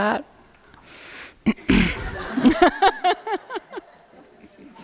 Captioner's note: laughter